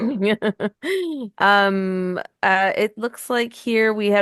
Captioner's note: laughing